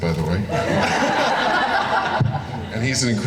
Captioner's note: laughing